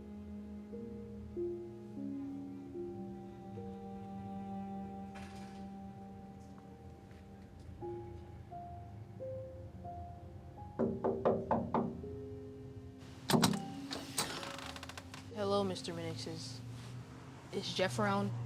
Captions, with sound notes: (knuckles rapping) Hello, Mr. Minnix, is Jeff around?